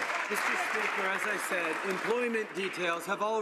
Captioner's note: some Applause